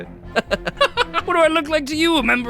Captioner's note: laughing